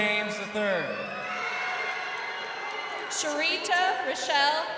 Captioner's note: crowd cheering